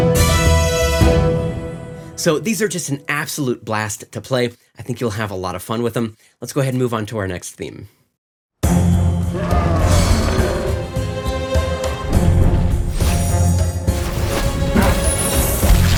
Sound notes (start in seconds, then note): 9.4 intriguing music; 10.8 monsters roaring